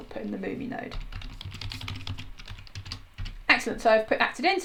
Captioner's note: types loudly